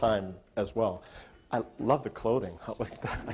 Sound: audience laughter

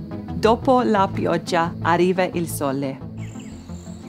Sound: speaking italian

